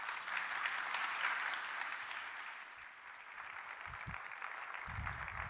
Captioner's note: applause